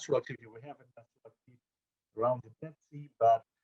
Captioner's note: audio drop